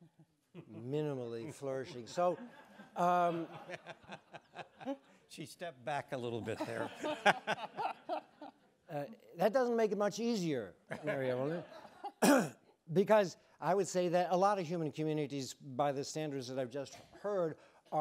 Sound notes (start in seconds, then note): 1.5 audience laughing; 1.8 laughs; 6.5 laughs